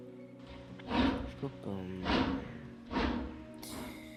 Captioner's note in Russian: звук неумолимо уходящего в неизвестность поезда